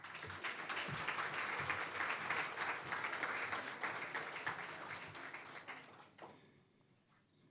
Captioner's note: applause